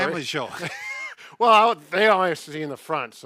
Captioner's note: laughs